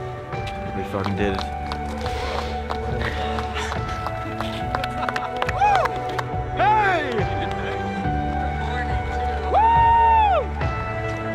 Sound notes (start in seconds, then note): 2.4 team applauds; 4.8 team cheers and whoops; 9.5 whoops